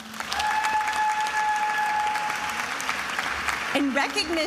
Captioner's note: attendees applauding and cheering